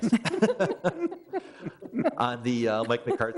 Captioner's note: all laugh